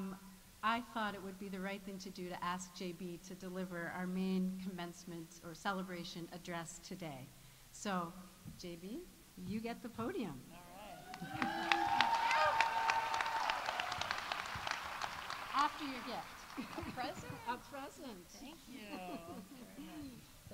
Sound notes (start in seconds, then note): 10.8 audience cheering; 11.0 audience applauding